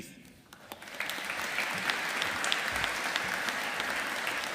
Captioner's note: audience applauding